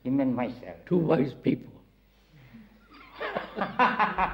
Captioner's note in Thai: หัวเราะ